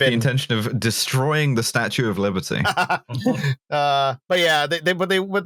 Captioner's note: laughs briefly